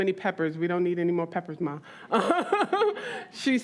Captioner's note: laughs